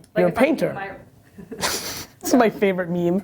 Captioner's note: both laugh